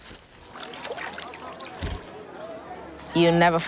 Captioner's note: chatter